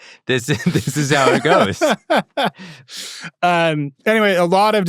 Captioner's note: laughing